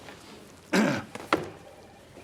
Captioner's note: clears throat